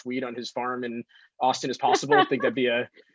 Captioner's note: laughs